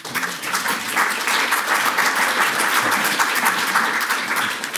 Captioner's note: audience applauds